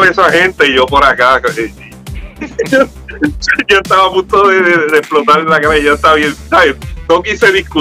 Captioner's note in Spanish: Risas